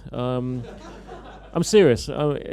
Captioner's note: laughter